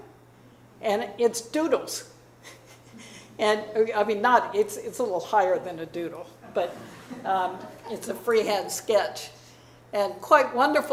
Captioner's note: chuckles; audience laughing